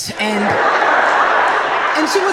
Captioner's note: audience laughs